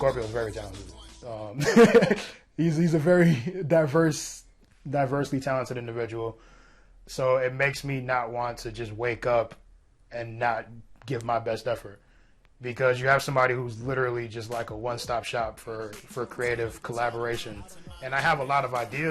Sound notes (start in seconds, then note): 1.6 laughter